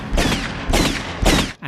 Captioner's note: bang!!!; bang!!!!